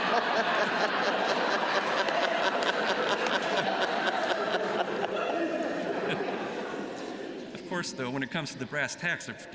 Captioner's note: laughter